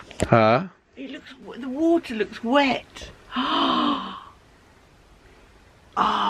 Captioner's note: gasps